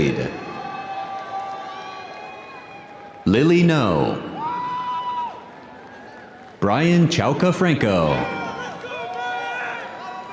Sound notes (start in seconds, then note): 4.3 audience applauding; 4.3 audience cheering